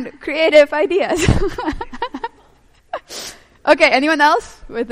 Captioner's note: laughing